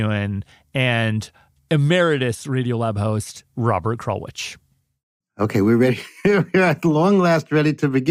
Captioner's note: laughs